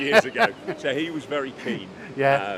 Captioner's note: laughing